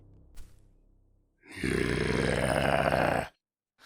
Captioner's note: groany noise